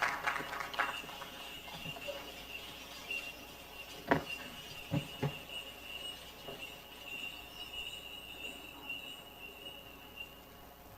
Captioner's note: bells jingling